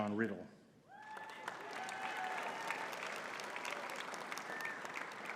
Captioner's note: audience cheering and clapping